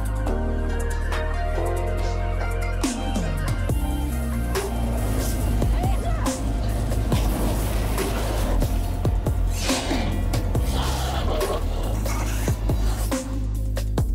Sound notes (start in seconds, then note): 5.7 woman yelling; 6.9 fire blazing; 9.1 swords clanking; 9.4 monster growling